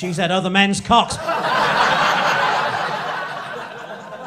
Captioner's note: crowd laughing